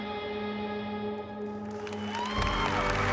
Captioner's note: cheering